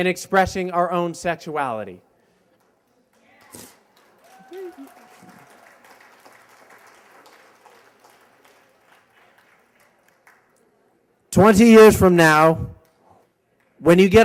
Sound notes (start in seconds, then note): 4.1 applause